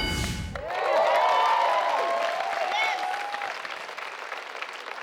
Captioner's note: ding; audience cheers